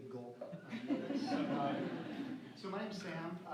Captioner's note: laughter